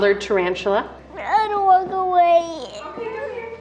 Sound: crying

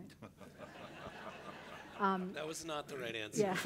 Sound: crowd applauding

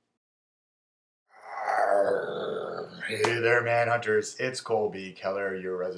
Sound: growl

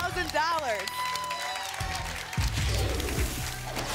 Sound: applause and cheering

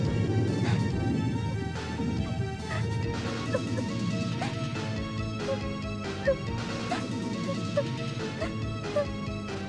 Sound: sobbing

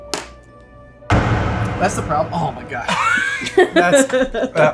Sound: epic boom

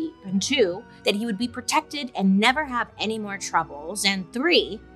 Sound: none

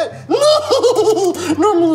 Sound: laughs

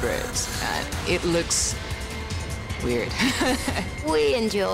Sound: laughs

